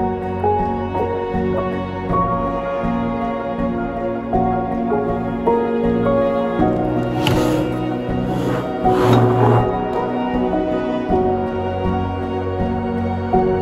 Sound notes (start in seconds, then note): 6.8 heavy drawer slides open roughly